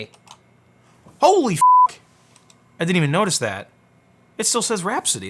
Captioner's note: beep